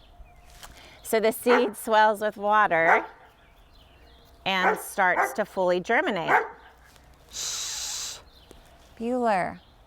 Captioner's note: dog continues to bark